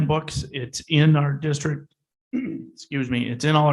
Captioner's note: clears throat